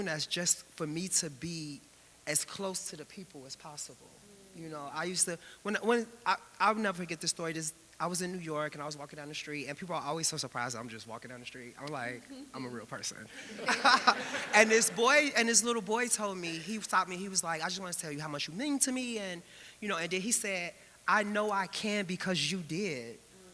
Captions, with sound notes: that's just for me to be as close to the people as possible. I'll never forget this story, I was in New York and I was walking down the street and people are always so surprised that I'm just walking down the street. I'm like, "I'm a real person." (laughs) (audience laughing) And this little boy told me, he stopped me. He was like, "I just wanna tell you how much you mean to me." And then he said, "I know I can because you did."